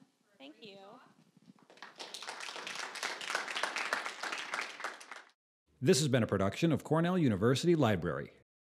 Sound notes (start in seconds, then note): 1.6 applause